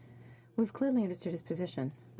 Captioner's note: speaking French